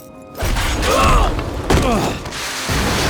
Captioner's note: grunting